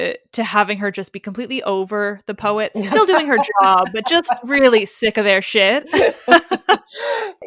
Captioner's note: laughs